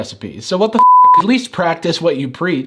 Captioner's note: beep